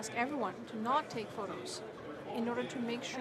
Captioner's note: speaking French